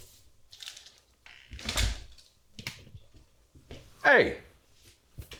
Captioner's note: door bangs